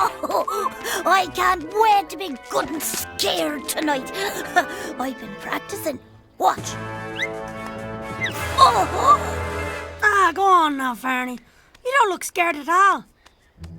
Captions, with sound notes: - I can't wait to be good and scared tonight. I've been practicing, watch. (gasping) - Go on now, Ferny, you don't look scared at all.